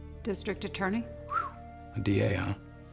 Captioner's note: whistles